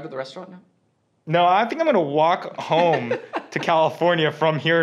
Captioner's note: laughs